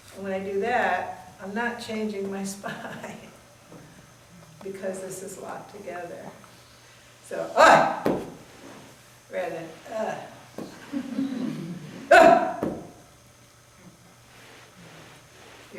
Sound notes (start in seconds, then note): 10.7 everyone chuckles